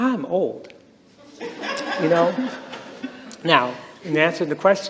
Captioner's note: laughter